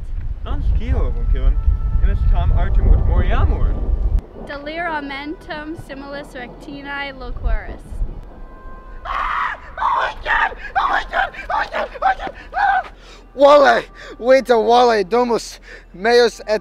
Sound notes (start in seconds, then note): 9.0 more vigorous screaming